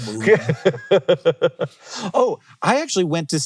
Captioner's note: laughing